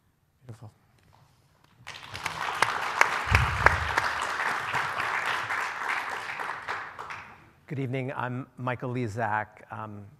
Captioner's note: applause